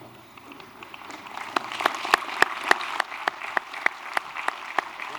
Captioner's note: applause